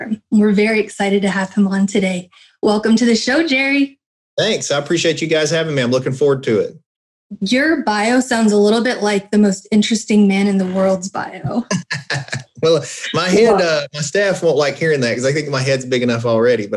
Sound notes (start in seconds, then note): 11.6 laughs